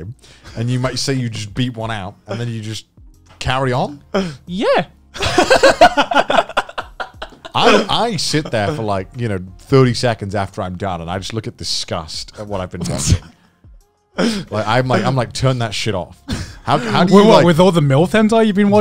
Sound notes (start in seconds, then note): 5.2 laughing